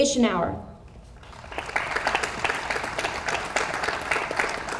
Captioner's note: audience applauds